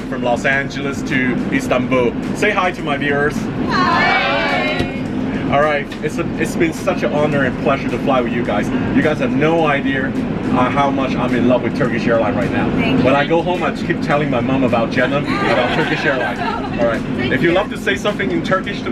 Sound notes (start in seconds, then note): 15.1 unanimous laughter